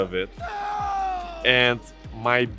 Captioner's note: screams